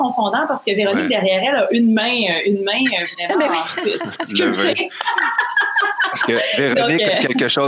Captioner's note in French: rires